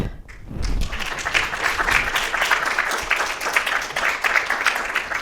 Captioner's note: attendees clapping